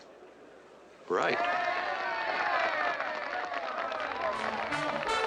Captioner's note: cheering and applause